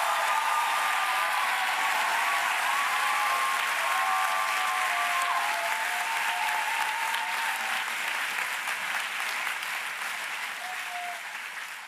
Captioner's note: applause